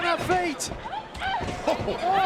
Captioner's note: Ember shouts